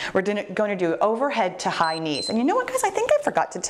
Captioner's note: timer beeps